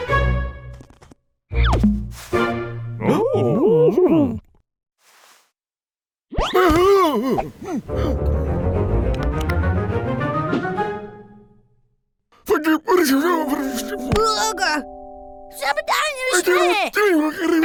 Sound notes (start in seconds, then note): 3.0 visitors exclaim; 8.1 upbeat strings music